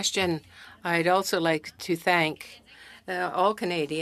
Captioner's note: speaking French